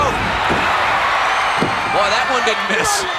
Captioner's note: audience cheering